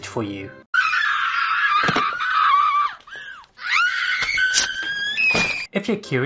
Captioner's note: Regina George screaming - Mean Girls